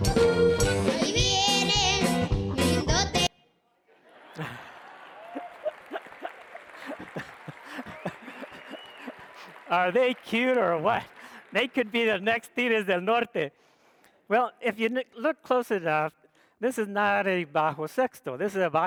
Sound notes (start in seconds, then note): 4.0 audience laughs; 4.1 audience cheers